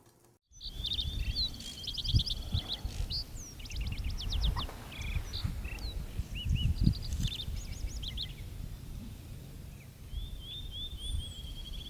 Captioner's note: old film projector; birds chirping and wind rustling